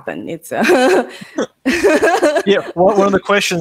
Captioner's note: laughing